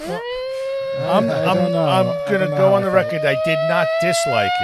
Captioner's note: screaming